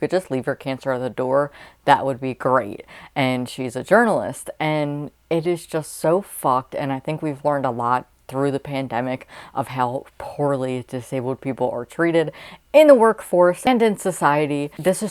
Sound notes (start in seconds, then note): none